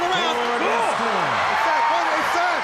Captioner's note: crowd chattering